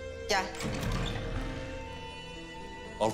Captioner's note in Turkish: Kapı sesi